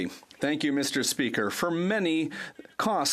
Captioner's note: speaking French